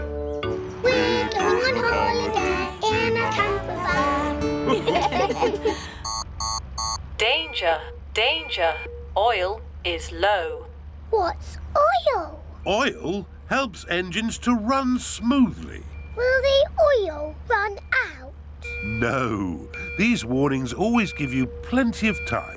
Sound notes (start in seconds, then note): 4.6 laughter; 5.8 beeping